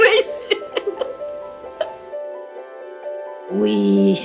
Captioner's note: laughing